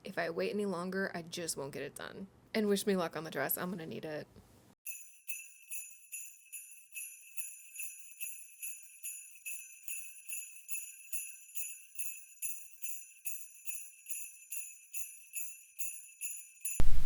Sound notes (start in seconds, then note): 4.8 festive bells chiming